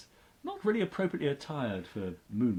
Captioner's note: none